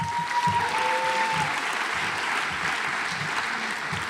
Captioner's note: audience applauds